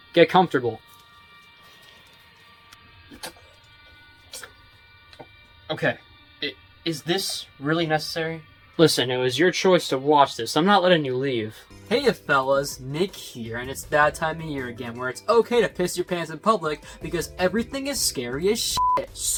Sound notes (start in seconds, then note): 0.8 rope ties around arms